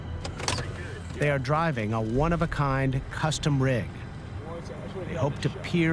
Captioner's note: none